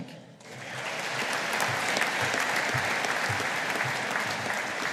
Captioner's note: audience applauding